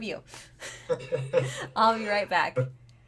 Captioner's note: laughing